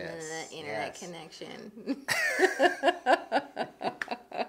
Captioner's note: laughs